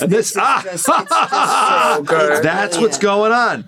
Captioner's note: Gould laughs